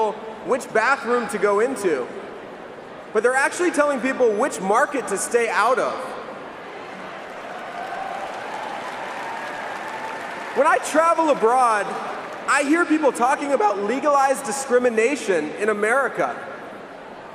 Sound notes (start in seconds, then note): 13.0 cheering and applause